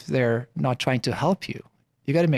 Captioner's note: none